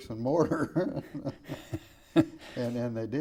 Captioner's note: laughing